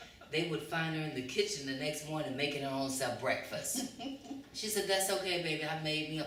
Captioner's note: laughter